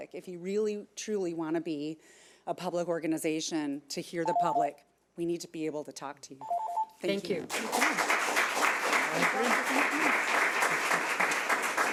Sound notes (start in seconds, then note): 6.4 alarm beeping; 7.4 audience clapping